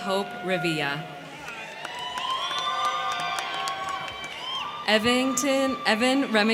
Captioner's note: crowd cheering; crowd clapping